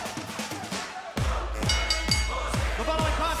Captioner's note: bell ringing